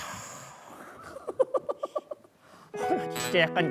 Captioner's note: can't help but to laugh